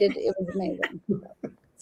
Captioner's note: laughter